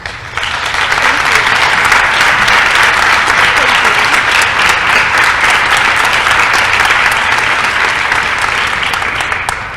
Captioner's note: applause